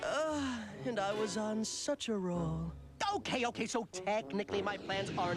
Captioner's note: sighs